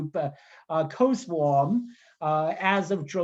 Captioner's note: speaking in Mandarin